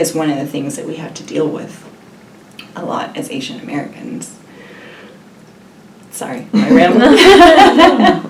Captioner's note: laughs